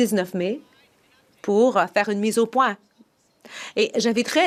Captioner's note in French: voix de l'interprète